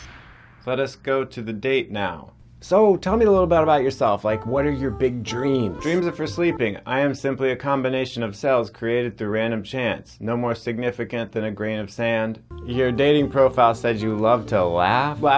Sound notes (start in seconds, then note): none